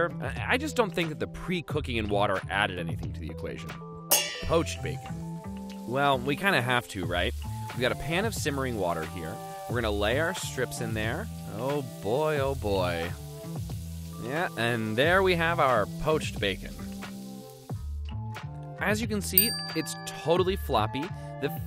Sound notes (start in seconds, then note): 4.1 pans clanging; 19.4 dings